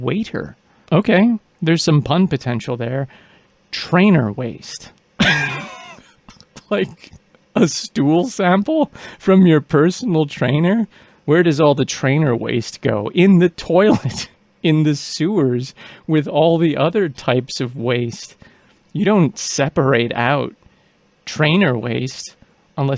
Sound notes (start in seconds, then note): 5.2 bursts out laughing